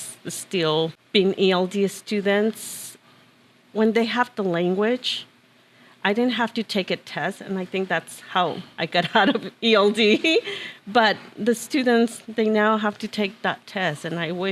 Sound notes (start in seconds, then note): 9.0 laughter